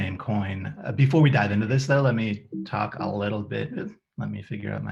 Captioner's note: computer makes noise